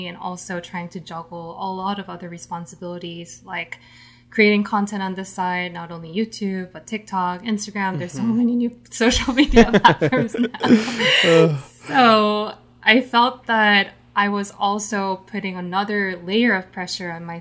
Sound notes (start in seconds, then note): 9.1 laughs